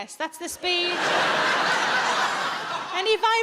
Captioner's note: audience laughs